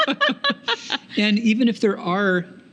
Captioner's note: laughing